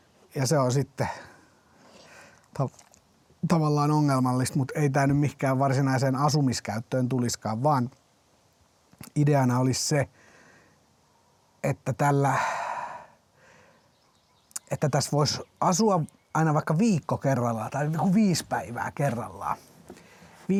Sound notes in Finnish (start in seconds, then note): 12.3 huokaus